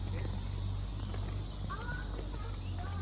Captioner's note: birds chirping